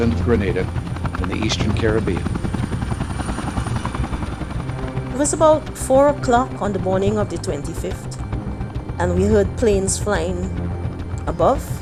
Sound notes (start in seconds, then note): 2.8 soundbite of helicopter blades whirring